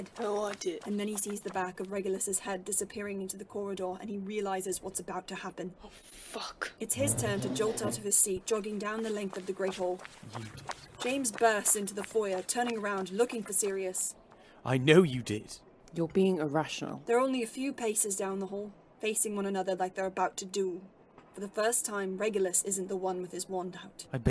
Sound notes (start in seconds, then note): 9.6 chair scraping